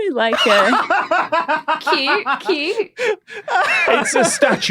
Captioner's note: laughs uproariously